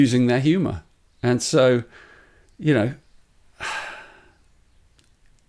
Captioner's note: sighs